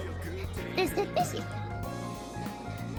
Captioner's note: evil laughing